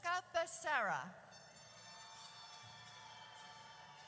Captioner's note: audience cheers